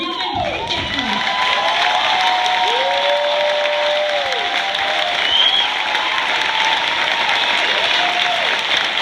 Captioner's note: effusive cheers, applause